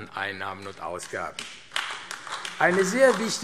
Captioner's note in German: Beifall AfD